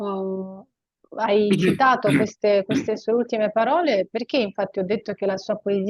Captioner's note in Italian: schiarire la voce